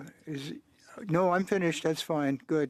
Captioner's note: speaking French